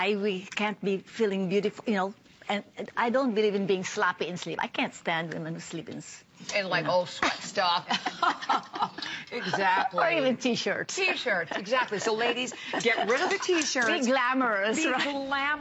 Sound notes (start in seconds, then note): 7.8 laughter